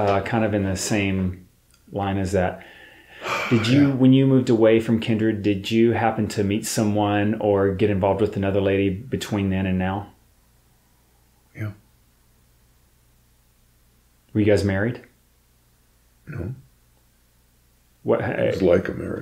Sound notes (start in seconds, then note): 2.6 exhales